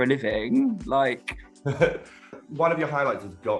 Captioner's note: chuckles